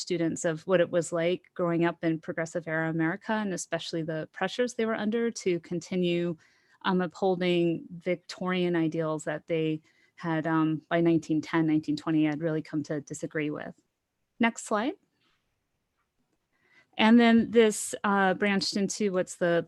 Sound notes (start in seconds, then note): none